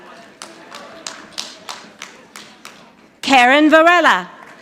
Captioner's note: audience applauding